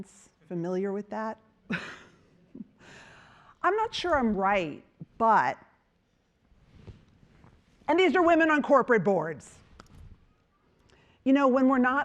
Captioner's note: chuckling